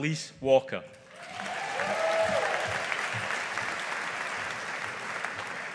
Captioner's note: audience applauding